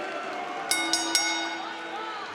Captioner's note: bell dings